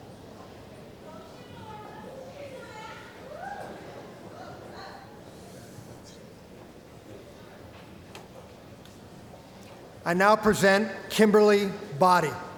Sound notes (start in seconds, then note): 1.2 cheering